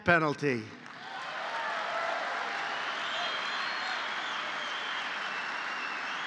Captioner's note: applause